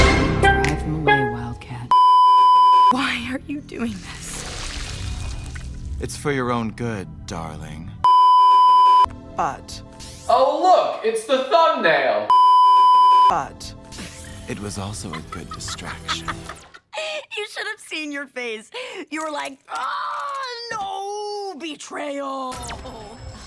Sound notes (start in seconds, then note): 0.0 instrumental; 4.4 transformation noises; 15.0 laughing